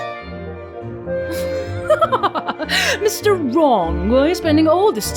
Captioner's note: guffaws